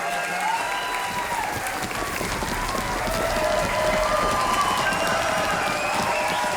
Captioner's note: audience clapping; audience cheering